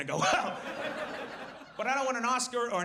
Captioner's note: audience laughs